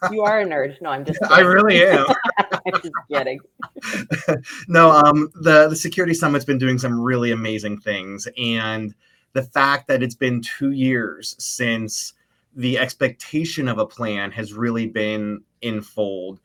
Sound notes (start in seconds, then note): 0.8 both laugh